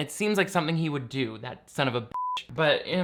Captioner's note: beep